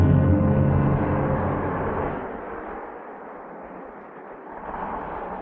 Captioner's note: foreboding music; engine rumbling